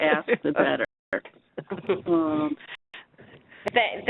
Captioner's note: laughing